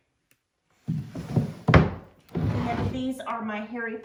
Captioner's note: drawer closes